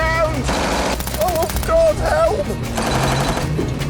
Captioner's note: gunfire